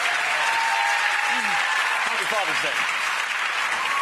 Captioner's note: audience claps and cheers